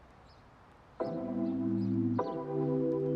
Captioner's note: mellow techno music; birds twitter